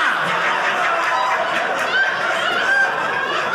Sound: audience laughing

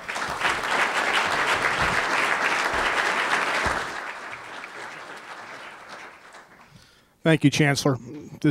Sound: applause

